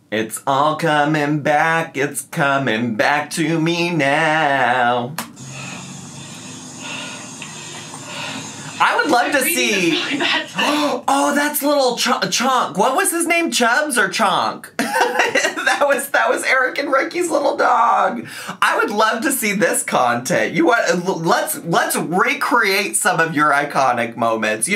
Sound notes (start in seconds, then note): 5.5 panting; 14.8 laughing